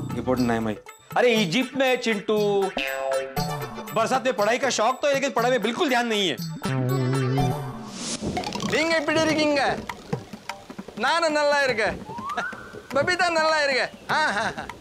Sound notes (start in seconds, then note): 8.6 speaking South Indian regional language